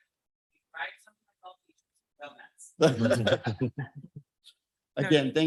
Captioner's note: speaking faintly